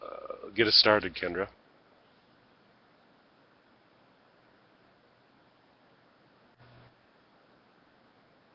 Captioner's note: long Pause